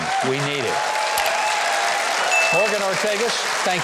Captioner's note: audience applauding